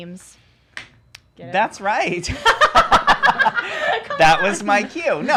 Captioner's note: laughs